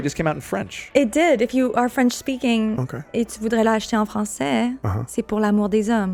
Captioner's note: speaks in French